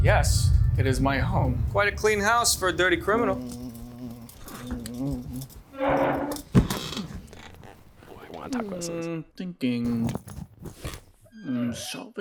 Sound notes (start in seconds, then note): 5.8 chair squeaks